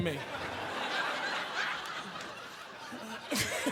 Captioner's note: audience laughing